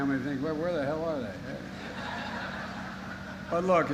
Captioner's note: laughter